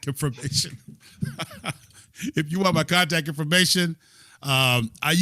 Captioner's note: laughter